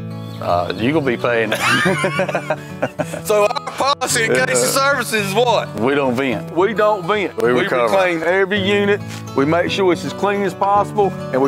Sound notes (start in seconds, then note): 1.4 men laughing